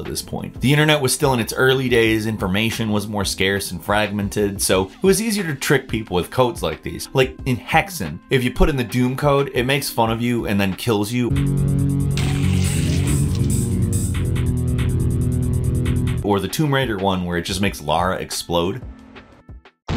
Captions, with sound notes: At this point the internet was still in its early days information was more scarce and fragmented so it was easier to trick people with codes like these like in Hexen, if you put in the Doom code, it makes fun of you and then kills you. (chiptune music) (explosion sound effect plays) Or the Tomb Raider one where it just makes Lara explode.